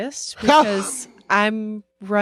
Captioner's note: laughs